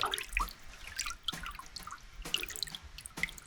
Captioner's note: water drips